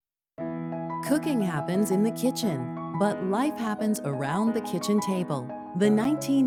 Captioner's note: none